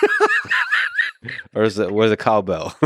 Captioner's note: laughing